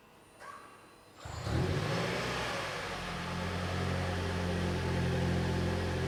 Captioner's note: engine roaring loudly